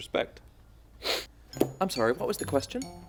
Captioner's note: sniffles